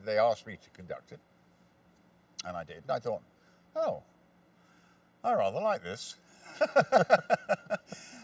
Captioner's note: both laugh